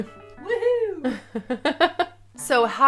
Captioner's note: laughing